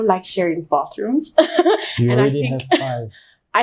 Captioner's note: chuckles